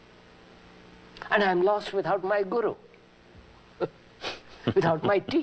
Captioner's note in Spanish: risas